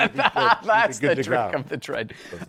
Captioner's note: laughs